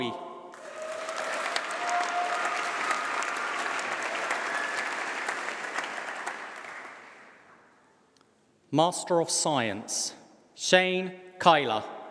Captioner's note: applause